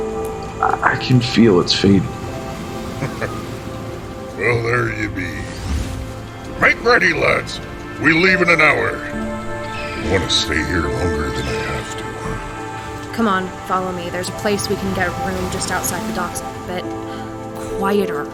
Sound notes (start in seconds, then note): 6.7 yelling; 13.2 gruff